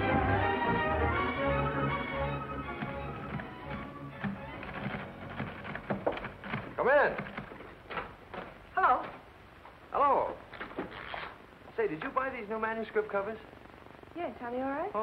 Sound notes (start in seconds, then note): 5.7 knock on door